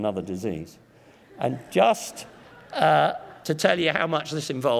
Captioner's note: audience laughs